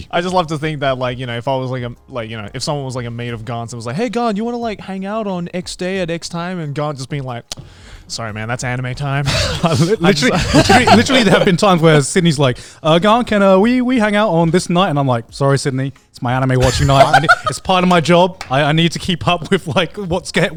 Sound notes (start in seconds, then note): 9.3 group laughs